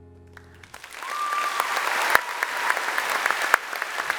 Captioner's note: applause